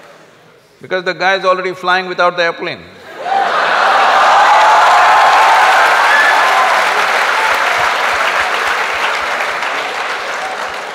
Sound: laughter\Applause

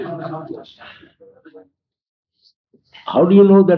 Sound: laughter

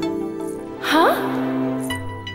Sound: gasps

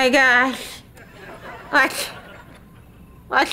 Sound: stammering

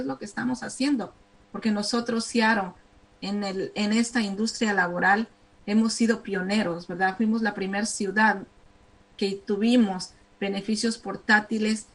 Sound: speaking spanish

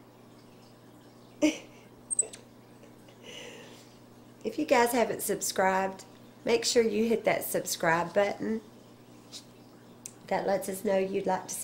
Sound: laughter

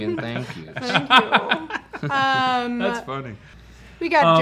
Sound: laughs

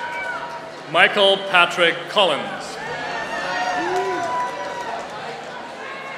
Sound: applause

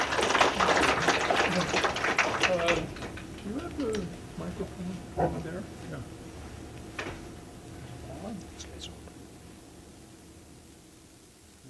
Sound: applause

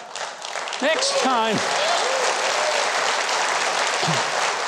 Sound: crowd clapping; crowd laughing; crowd cheering

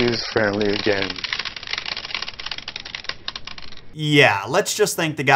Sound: Skittles rattling

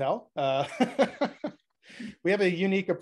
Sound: laughing

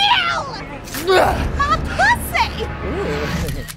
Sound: grunts; camera snaps

